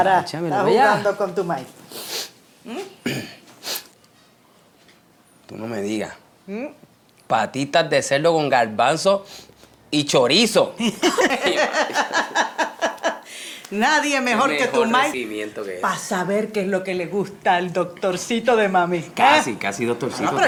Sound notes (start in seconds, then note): 3.5 sniffs; 10.8 Yuya Laughs